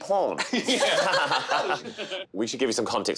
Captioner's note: all laughing